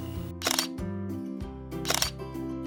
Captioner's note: shutter sound